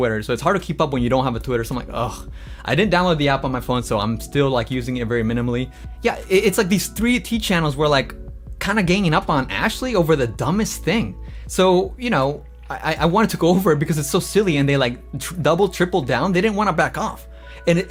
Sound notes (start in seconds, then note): none